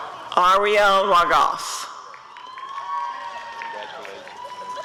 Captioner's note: applause and cheering